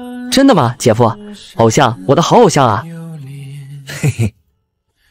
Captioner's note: giggles